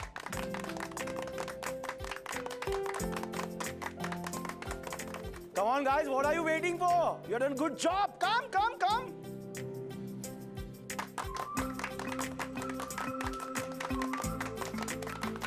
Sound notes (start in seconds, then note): 0.1 delightful music; 10.9 clapping